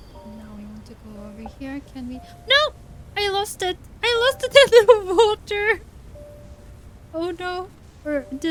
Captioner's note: laughs